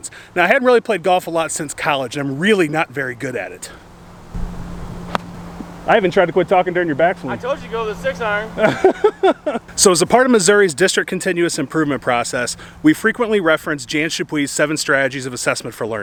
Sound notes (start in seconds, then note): 8.5 laughter